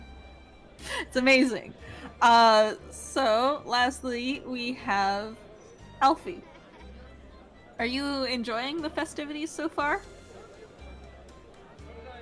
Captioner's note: laughs